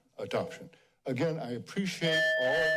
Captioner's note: bell rings